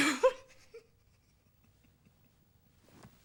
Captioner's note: laughs